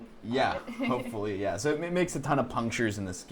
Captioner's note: laughs